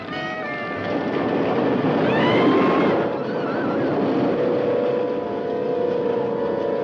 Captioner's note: cheerful music; people chattering; roller coaster rattling; people screaming; tense music